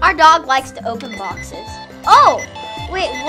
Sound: phone prank ringing

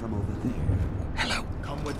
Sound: whispers

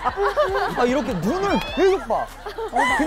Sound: laughing to death

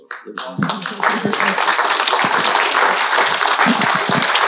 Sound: audience applauding

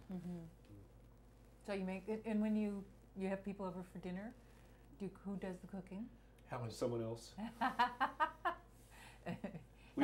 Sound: laughs

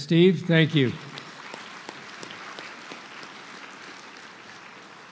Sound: applause

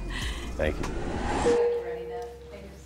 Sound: text dings

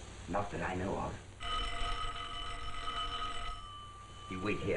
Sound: doorbell rings

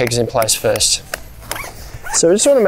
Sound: hammer tapping; zipper screeching

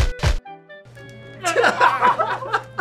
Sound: laughing

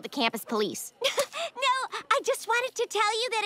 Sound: giggling

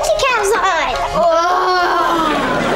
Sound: groaning

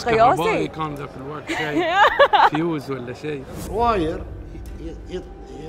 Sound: laughing

